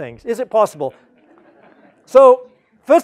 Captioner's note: laugh